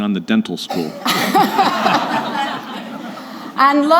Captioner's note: laughter